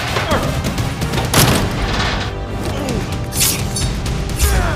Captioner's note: door bangs into julian anthony grunts